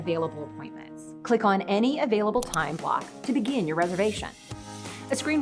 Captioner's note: mouse Click